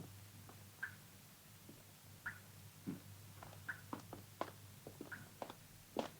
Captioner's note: liquid continues dripping